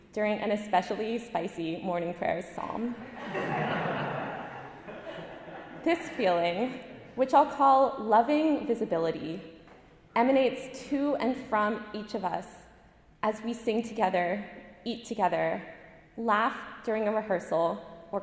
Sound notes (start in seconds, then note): 3.0 audience laughing